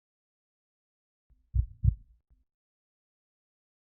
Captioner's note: heartbeat